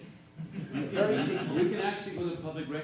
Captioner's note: audience laughs